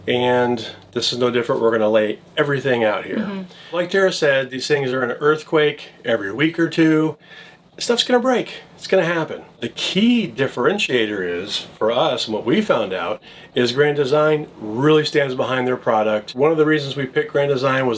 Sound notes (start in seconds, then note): none